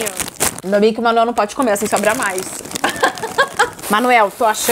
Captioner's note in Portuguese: risos